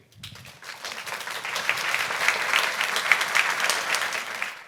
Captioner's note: audience clapping